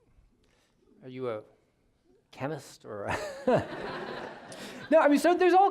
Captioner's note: all laughing